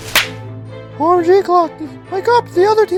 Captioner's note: tree rustling